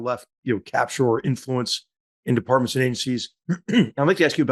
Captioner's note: cough